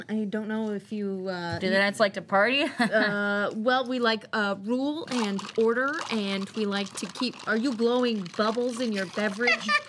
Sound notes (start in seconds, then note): 5.1 liquid gurgling